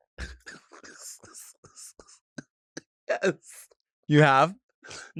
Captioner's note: laughs